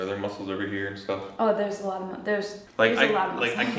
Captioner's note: chuckles